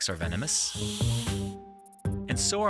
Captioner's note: snake rattling; light music